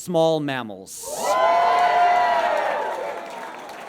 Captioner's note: audience cheers and applauds